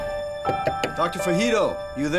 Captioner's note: knuckles rapping